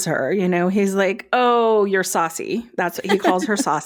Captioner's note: laughs